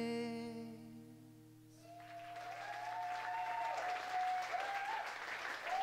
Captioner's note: applause